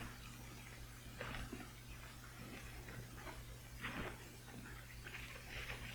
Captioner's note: footsteps approaching